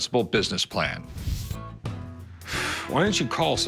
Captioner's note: sighs